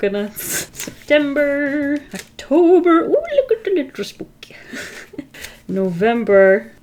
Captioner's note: laughs